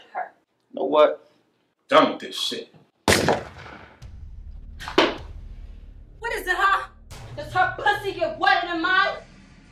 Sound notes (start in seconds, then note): 3.0 guns firing; 3.5 dramatic music